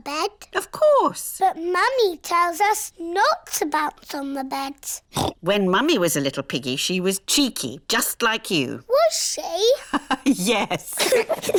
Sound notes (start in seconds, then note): 5.1 oinks; 9.6 laughs; 9.7 both giggle